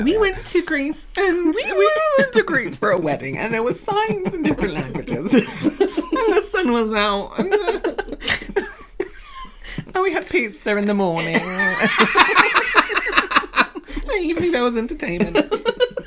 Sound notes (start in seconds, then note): 11.3 laughter of Shame